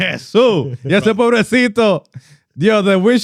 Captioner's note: speaking Spanish